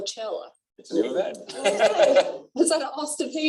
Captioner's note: laughter